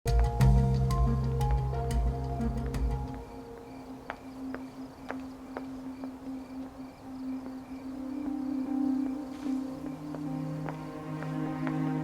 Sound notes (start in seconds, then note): 0.5 eerie music; 4.9 footsteps; 9.4 eerie music